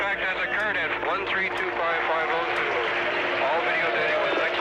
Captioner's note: applause